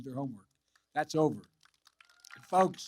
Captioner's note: applause